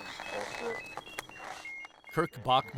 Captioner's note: sensors beeping